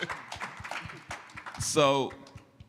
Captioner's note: applause